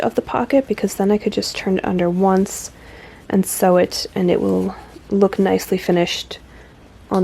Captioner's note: none